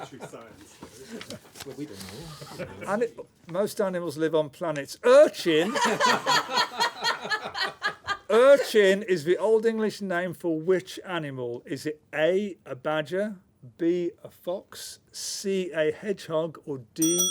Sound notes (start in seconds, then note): 5.6 laughter